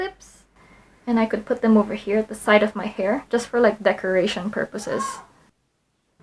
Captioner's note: kid yells in the background